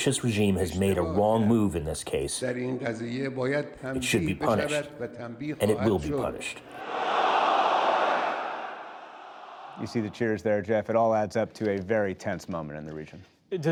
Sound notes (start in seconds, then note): 9.7 cheering and applause